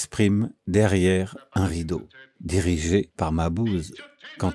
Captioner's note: acousmatic voice